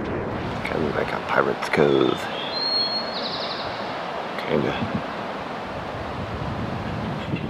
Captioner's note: birds